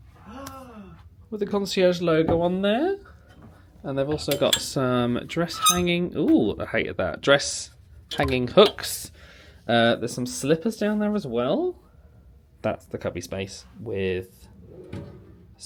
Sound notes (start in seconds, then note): 0.2 gasps; 5.4 hanger squeaks